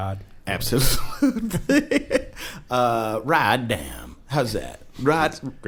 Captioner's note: laughs